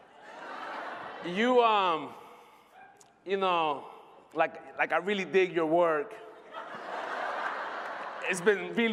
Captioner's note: laughter